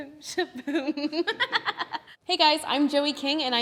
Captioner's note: laughs